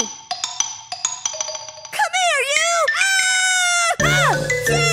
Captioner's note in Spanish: gritos